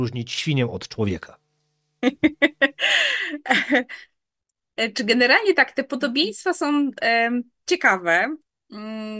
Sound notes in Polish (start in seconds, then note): 2.0 śmiech